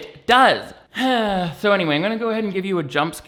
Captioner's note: sighs